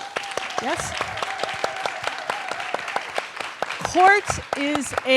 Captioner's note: audience applauding